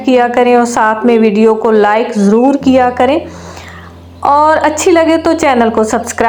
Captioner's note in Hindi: नाक से की जाने वाली आवाज़